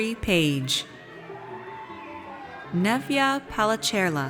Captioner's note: audience cheers